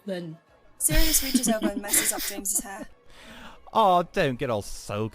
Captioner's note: they giggle